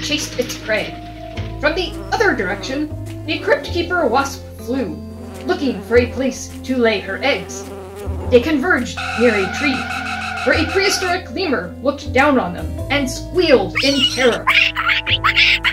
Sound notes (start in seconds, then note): 13.7 squealing noises